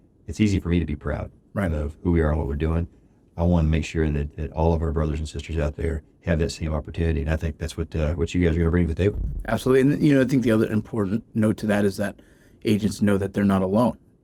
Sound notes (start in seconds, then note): none